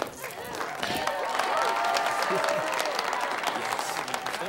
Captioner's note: feet shuffling; class cheers